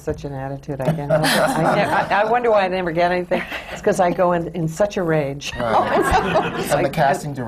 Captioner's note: laughter; laughter